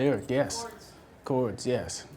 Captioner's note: voiceover